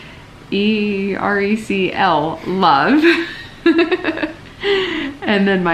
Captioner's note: laughs